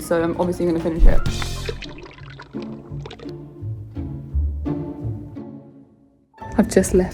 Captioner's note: viscous liquid pours; bouncy orchestral music